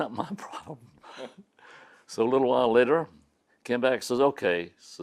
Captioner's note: laughs